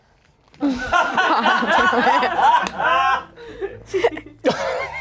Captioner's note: everyone laughs